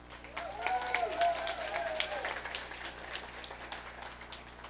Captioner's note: audience applauding